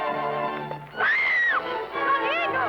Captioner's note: Isabella screaming